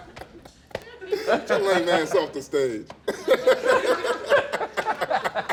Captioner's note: laughter